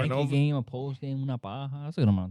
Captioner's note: non-english Speech